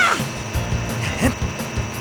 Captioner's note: battle cry; battle grunt